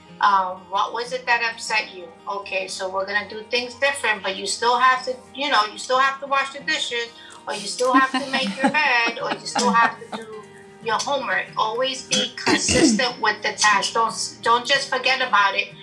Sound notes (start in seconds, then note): 7.5 women laugh